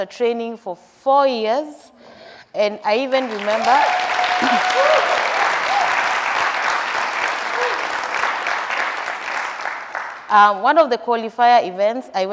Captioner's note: applause